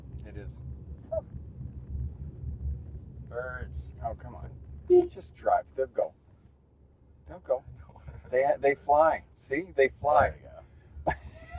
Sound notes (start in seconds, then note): 4.9 honks the horn; 8.2 chuckles